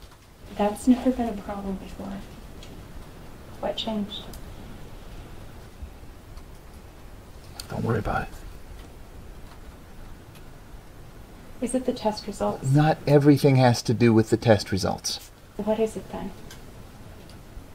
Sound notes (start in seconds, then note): none